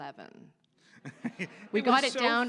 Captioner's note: audience laughs